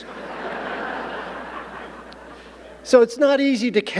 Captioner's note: audience laughing